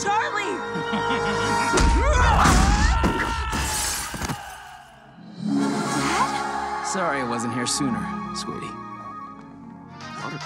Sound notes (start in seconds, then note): 0.7 Adam laughs